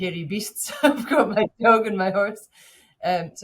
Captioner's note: chuckles